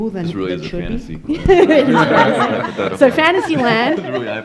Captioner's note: laughing